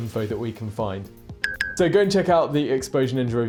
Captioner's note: bell dinging